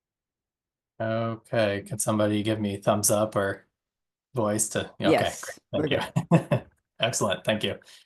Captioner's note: laughing